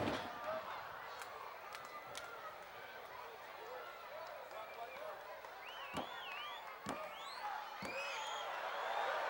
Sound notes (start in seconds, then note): 1.9 audience murmuring